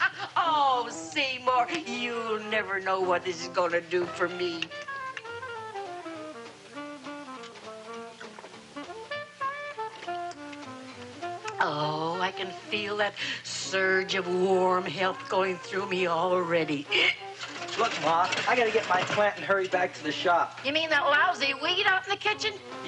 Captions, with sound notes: Oh Seymour, you'll never know what this is gonna do for me! (liquid sloshing) Oh I can feel that surge of warm health going through me already (hiccups)! - Look ma, I gotta get my plant and hurry back to the shop! - You mean that lousy weed out in the kitchen?